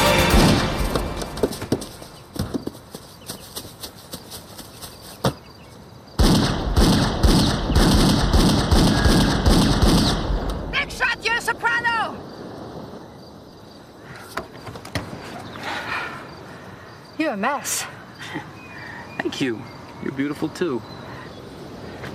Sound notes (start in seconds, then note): 0.1 gunshot; 6.2 gunshots; 18.2 chuckles